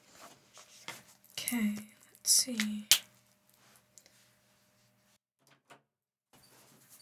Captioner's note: silence